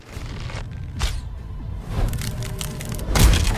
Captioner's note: wood breaking